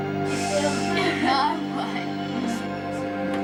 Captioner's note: laughs